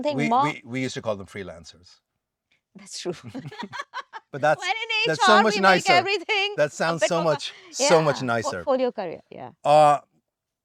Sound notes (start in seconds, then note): 3.2 laughing